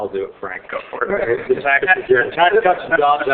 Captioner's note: laughing